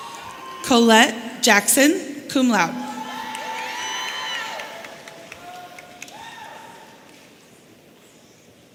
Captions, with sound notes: Colette Jackson, cum laude. (audience cheering)